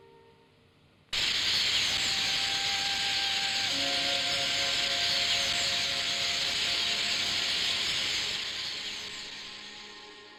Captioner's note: birds chirping en masse; melancholy music